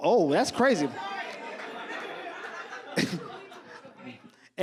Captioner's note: audience laughs